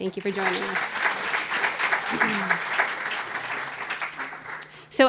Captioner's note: applause